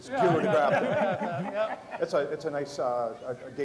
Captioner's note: laughter